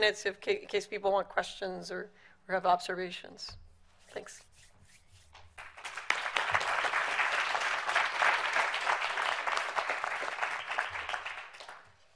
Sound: applause

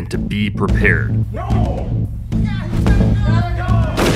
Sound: people at a distance fighting; gunshot

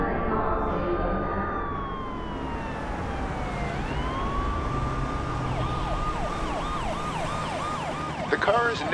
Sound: police sirens

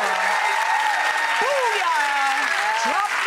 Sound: applause

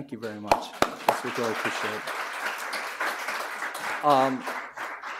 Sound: claps; audience applauds

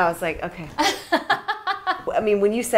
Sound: laughing

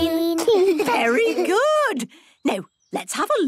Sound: children giggling

